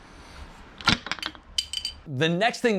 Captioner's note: cap clinking